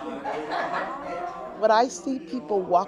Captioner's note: audience laughs